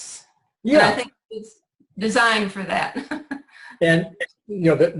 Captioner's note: laughs